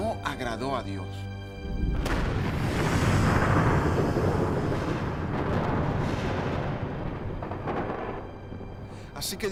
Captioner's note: luz de relámpago y estruendo de trueno